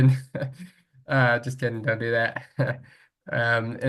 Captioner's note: laughs